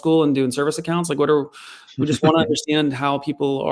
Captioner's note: chuckles